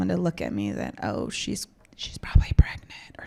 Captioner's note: whispering